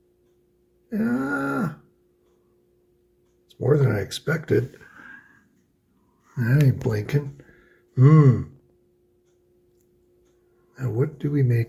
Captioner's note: hesitates